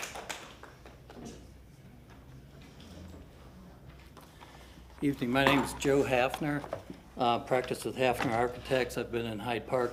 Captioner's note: applause